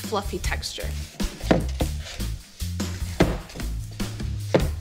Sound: bowl taps

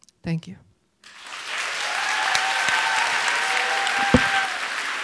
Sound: audience applauds

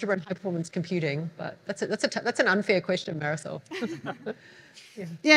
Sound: laughs

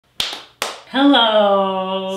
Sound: clapping

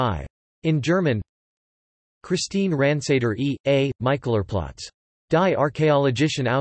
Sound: in German

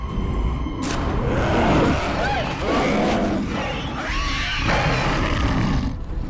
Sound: loud growl

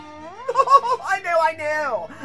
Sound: laughs

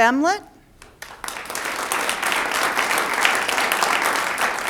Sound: audience applauds

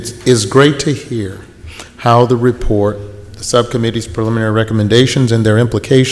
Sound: none

